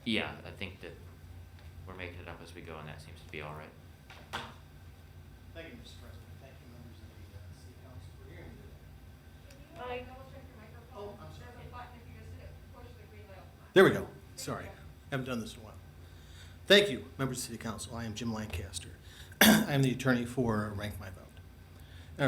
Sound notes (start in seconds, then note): 19.4 clears throat